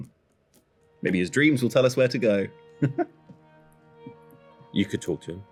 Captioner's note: laughs